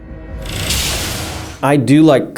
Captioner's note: whooshing